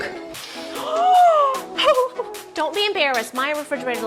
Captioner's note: gasping